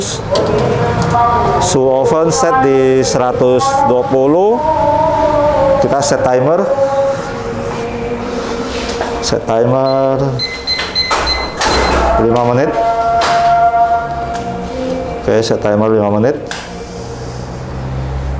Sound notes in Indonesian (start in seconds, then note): 8.9 suara tombol; 13.1 suara timer